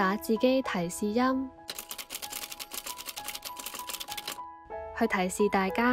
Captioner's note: sound of typewriter